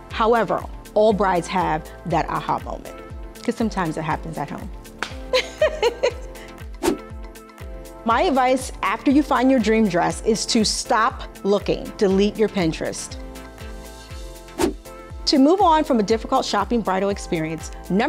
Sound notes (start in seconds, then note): 5.2 laughing